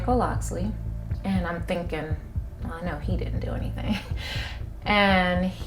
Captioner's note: chuckles